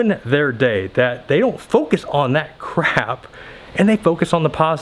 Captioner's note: laughs